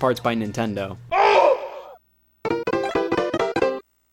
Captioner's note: frustrated scream; theme music